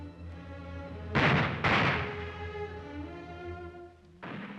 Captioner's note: ominous music; gunshots; gunshot heard faintly